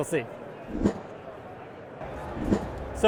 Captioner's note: air whooshing